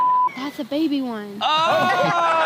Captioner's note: beep